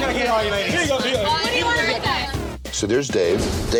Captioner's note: crowd talking loudly